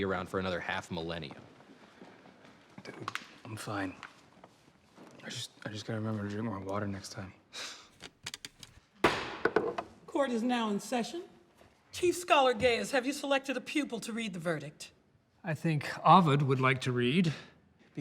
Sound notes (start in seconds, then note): 7.6 sighs; 9.0 bangs gavel